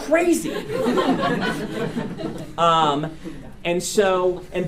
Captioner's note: students laugh